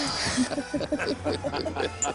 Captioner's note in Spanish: Risas